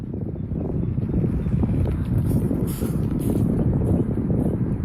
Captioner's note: wind blows